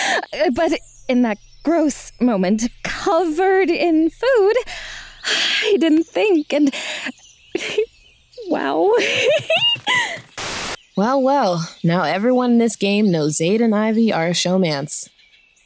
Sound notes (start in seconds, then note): 6.7 exhales; 8.9 giggles